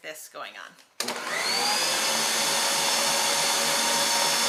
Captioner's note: beater whirs